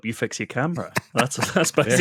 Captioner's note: laughter